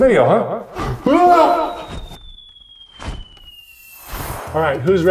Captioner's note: exclaiming